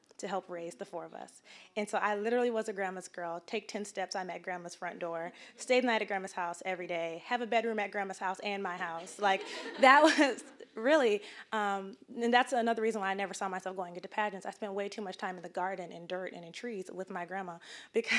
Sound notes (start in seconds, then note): 9.0 audience laughing